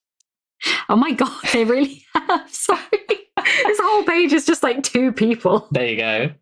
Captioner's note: laughing